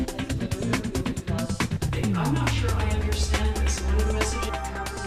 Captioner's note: people chatting